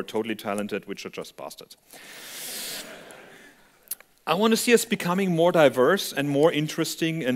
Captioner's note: laughter